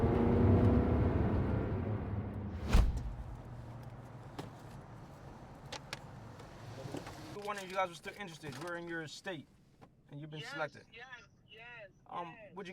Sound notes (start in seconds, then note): 2.5 whoosh